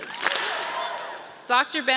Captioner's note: audience claps and cheers